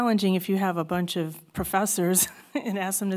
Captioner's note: laughs